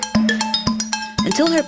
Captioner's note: clinking beat of silverware on ceramic